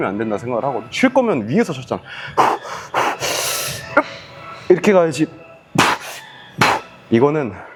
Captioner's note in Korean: 숨을 헐떡임